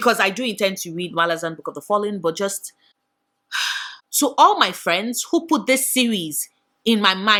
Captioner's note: sigh